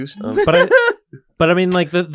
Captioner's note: laughs